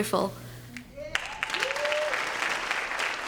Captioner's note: applause